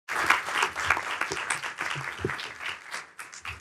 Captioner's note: applauding